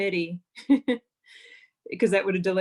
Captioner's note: laughs